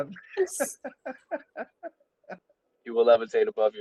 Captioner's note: laughter